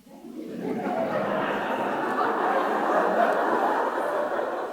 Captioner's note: audience laughing